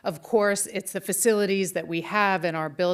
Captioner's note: none